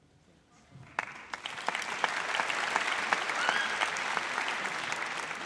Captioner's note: audience applauds